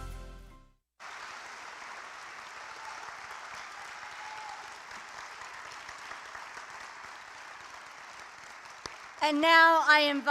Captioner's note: applause